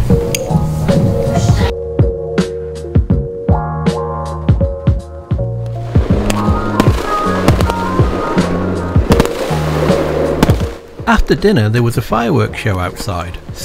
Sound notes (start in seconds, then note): 0.1 bright music; 5.8 fireworks crackling